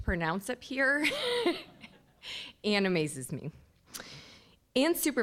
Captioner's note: laughing